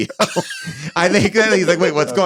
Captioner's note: laughs